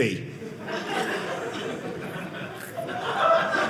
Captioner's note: audience laughing